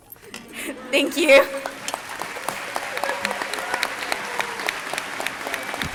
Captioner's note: crowd applauding